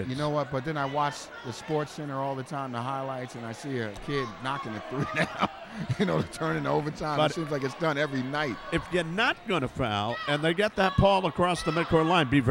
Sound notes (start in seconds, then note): 4.8 laughs